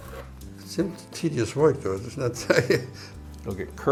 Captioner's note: laughs